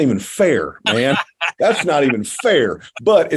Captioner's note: laughs